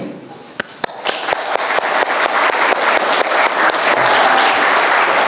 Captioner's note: audience applauding